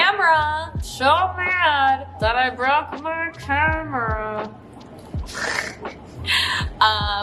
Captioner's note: snickers